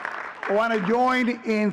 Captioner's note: audience cheering and clapping